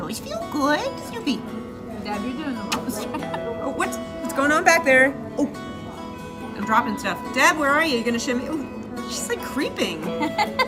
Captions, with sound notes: (kissing) What's going on back there? I'm dropping stuff. Deb where are you? She's like creeping!